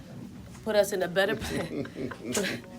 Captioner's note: chuckling